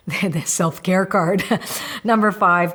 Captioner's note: laughs